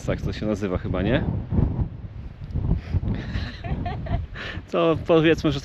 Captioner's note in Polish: śmiech